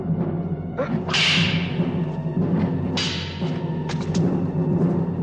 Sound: grunting; whipping

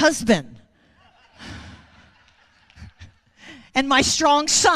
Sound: audience laughing

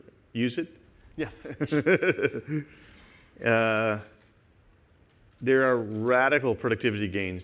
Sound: laughter

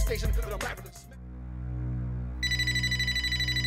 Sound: phone rings; foreboding music

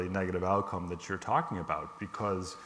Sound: none

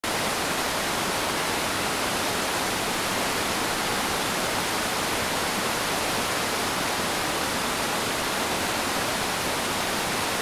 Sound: waterfall sounds

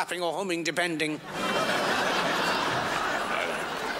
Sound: crowd laughs

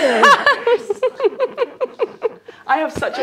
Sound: laughing

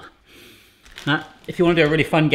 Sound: sniffing sound

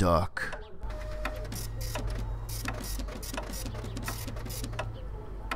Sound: printer noises

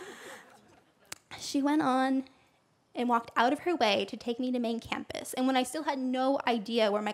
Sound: laughter

